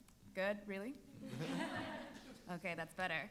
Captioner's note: panelists laughing